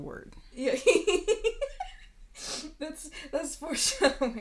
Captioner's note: laughing